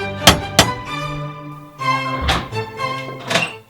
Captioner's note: classical music; knock